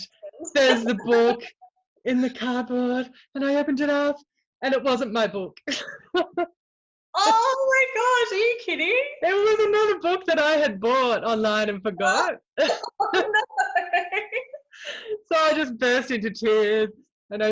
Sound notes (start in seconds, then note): 5.7 laughs; 12.6 both laugh